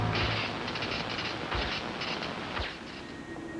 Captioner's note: electricity crackles